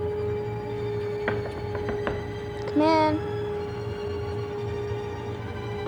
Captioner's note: tapping sound